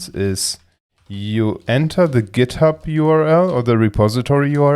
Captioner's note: keyboard typing